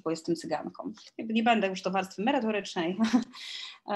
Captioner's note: śmiech